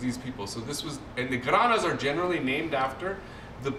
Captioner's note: non-english